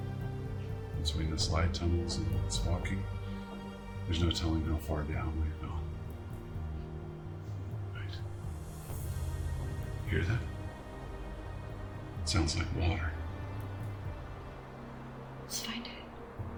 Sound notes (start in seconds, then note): 10.6 water gushing